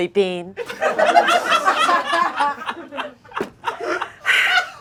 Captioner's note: audience laughing